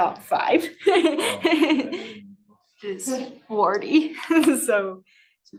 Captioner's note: laughs